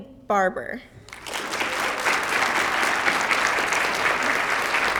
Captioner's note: applause